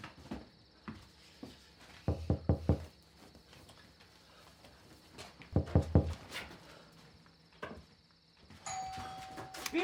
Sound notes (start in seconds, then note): 2.1 fist knocking; 8.6 doorbell ringing